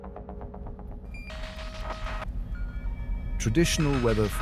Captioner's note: static crackling